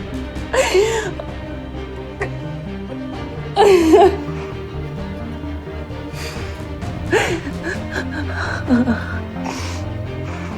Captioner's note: Serena cries